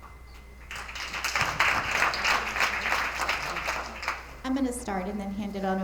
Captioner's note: attendees applauding